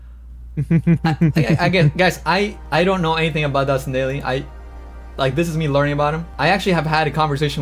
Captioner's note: laughs